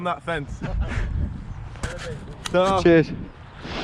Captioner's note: laughing